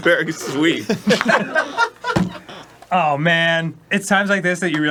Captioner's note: foot gently thuds on table